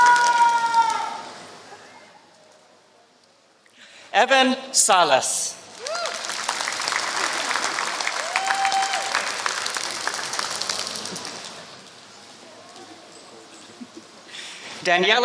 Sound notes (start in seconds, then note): 3.1 applause; 9.1 applause